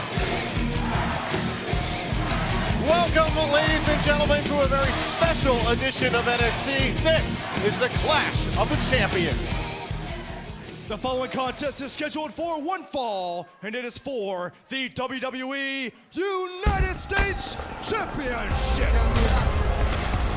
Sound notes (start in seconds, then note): 3.3 crowd cheering